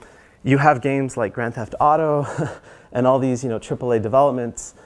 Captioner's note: laugh